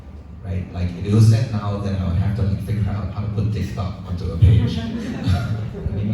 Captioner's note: audience laughs